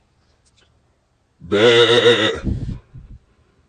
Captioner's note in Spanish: Beeeeh